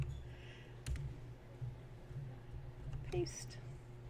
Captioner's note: typing, clicking